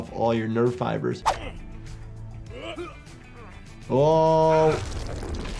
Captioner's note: fighters grunting